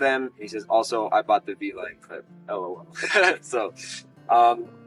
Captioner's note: laughs